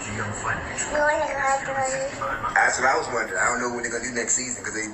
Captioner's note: points at TV and babbles